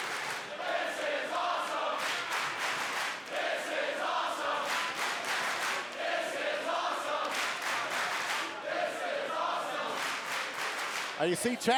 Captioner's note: applause